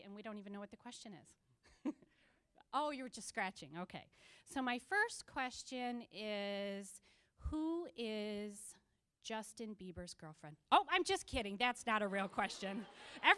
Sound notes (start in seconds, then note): 2.0 laughing; 12.1 audience laughing